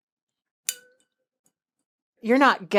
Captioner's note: glass clinks